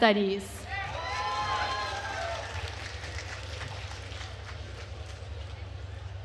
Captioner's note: attendees cheering and applauding